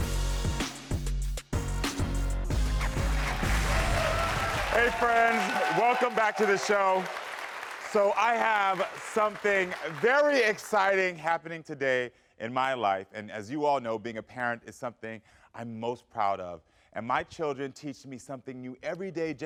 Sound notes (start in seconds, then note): 0.0 upbeat music; 3.5 crowd cheering